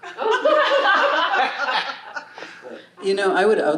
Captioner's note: audience laughing